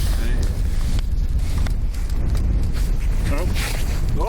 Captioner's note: wind blowing